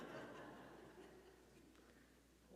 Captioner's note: audience laughing